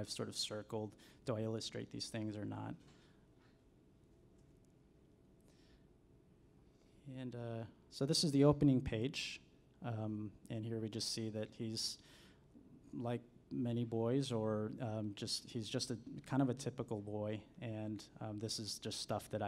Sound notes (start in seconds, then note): none